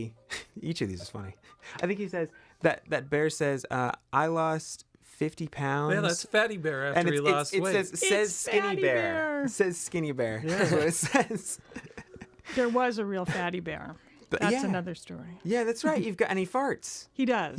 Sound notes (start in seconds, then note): 0.1 chuckles; 10.4 laughing